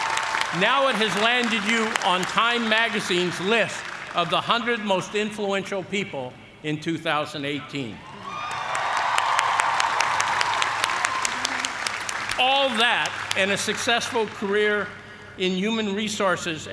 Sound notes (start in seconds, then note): 0.0 cheers and applause; 8.0 cheers and applause